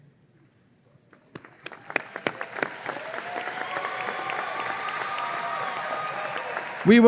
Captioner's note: audience applause and cheers